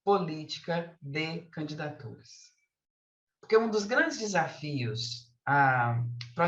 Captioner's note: continues speaking in Portuguese